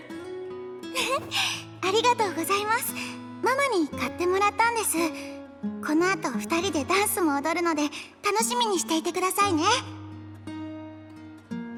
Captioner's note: laugh